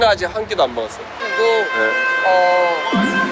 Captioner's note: honk